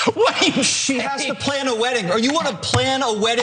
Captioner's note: laugh